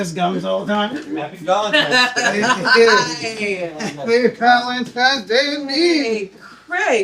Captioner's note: laughter